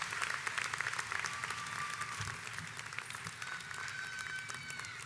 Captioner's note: audience applauds